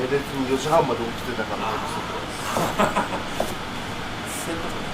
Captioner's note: laughs